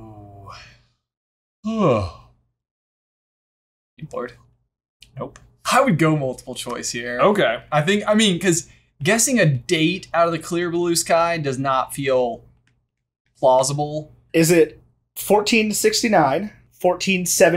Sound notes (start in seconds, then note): 1.6 yawns